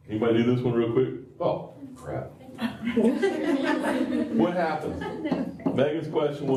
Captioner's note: laughter